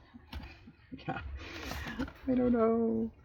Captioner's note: laughs